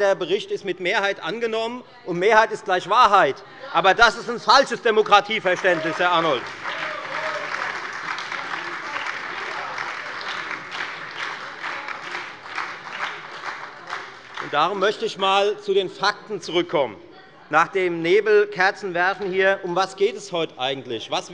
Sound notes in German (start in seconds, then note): 6.8 Beifall bei der FDP, der SPD und der LINKEN